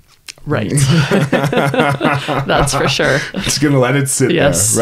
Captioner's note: laughing